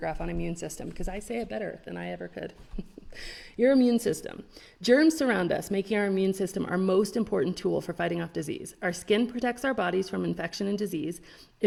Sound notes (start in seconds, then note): 2.6 chuckles